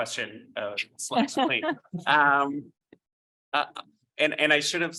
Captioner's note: laughing